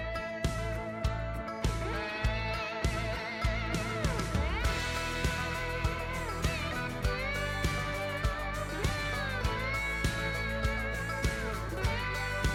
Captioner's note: footsteps